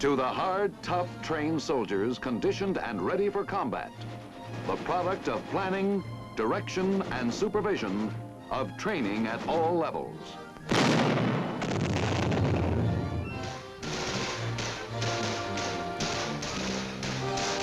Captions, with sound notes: to the hard, tough trained soldier conditioned and ready for combat. The product of planning, direction and supervision of training at all levels. (booming) (guns firing)